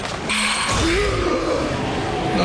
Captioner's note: gasping